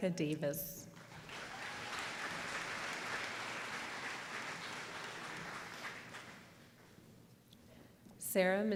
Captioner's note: applause